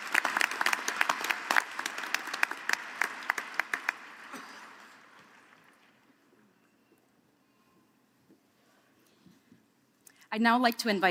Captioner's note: applause